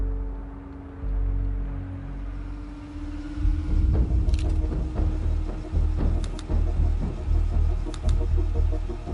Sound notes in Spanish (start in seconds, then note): 2.1 Ruido de motor; 5.0 Clic de la cámara